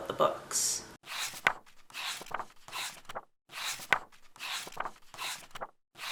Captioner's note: pages turning